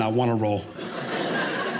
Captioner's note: audience laughing